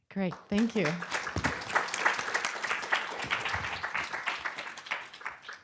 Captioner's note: applause